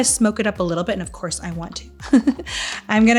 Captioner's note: laughing